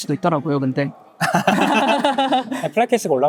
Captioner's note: laughs